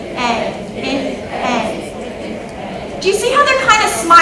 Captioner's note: attendees imitating vowel sounds